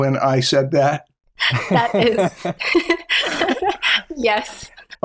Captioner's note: laughter